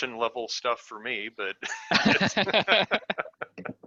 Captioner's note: laughs